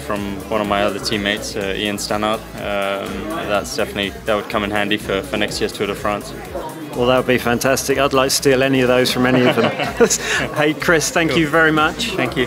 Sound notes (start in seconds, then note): 9.1 chuckles; 9.2 Chris laughs